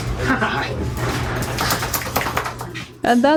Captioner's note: dog flopping